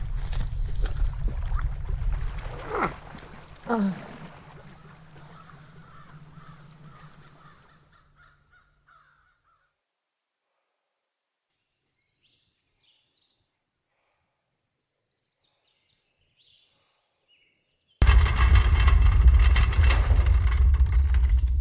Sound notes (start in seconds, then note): 0.1 Phil groans; 6.2 birds cawing; 12.2 birds chirping; 18.0 drawer rolling